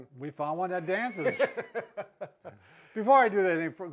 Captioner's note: laughs